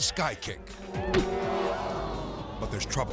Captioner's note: dramatic music; audience exclaims